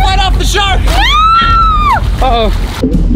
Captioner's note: screaming